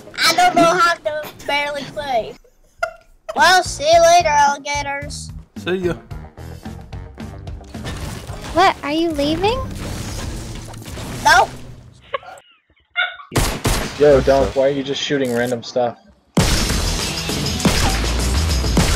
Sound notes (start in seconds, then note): 12.0 laughing; 16.4 intense music